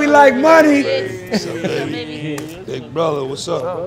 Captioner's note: guests cheering